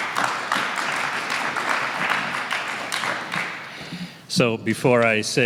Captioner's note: applause